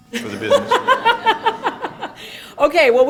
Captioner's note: laughter